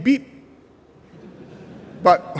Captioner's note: laughter